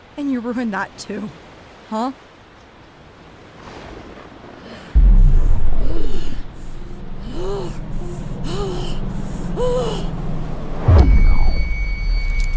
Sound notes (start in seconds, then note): 5.5 grunting